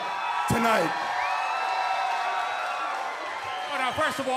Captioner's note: crowd cheering